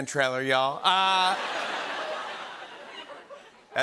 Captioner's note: laughter